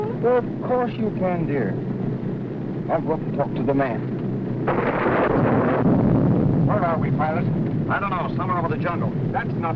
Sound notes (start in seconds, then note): 4.3 thunder rumbling; 4.7 plane whirring